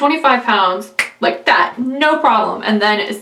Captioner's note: snaps fingers